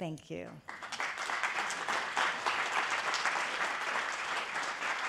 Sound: attendees applauding

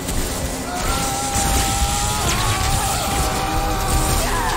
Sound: screaming

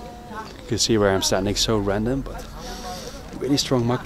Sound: sniffing

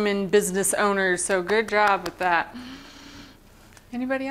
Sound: applause

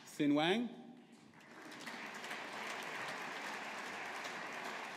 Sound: audience applauding

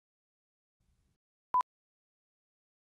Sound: beep

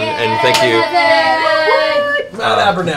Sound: cheering

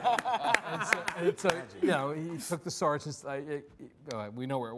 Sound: stammering

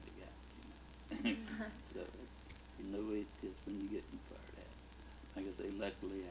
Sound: chuckles; both chuckle

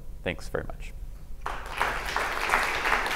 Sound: applause

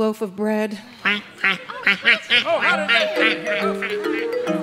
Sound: quacking

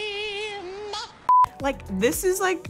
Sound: beep

